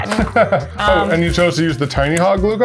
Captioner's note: chuckles